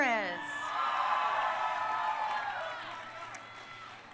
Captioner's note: crowd cheering